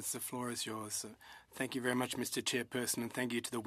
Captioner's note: speaking in French